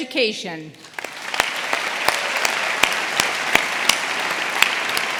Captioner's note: audience applauding